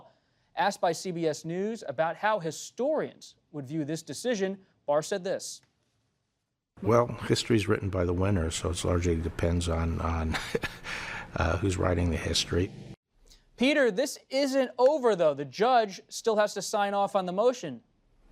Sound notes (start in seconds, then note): 10.2 laughs